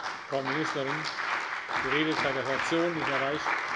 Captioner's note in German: Beifall bei der CDU und dem BÜNDNIS 90/DIE GRÜNEN